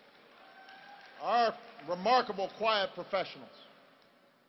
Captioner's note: applause